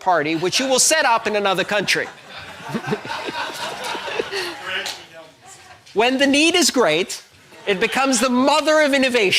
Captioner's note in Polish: Śmiech